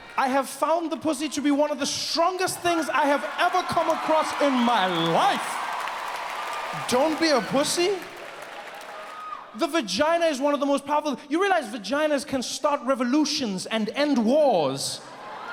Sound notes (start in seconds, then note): 5.8 audience cheers